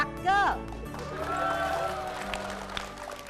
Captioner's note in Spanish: Aplauso